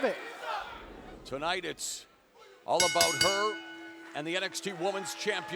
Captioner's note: bell rings